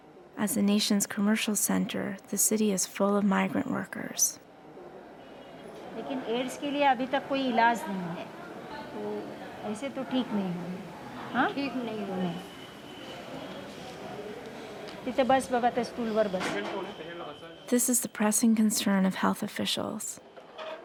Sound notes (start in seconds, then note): 6.7 speaking Indian language